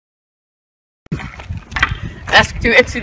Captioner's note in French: Hockey Sticks scraping pavement